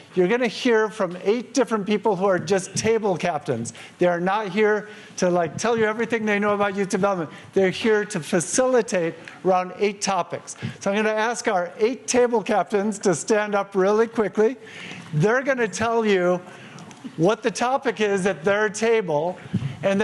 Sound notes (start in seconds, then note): none